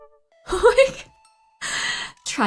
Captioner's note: laughs